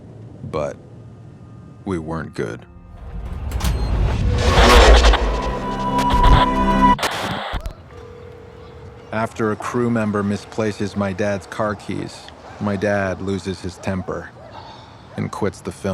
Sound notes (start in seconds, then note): 6.3 static; 7.4 line trilling